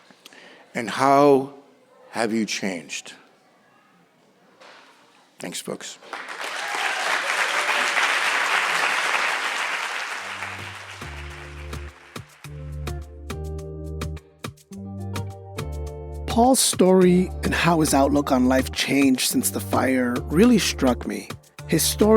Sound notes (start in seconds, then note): 8.9 applause and cheering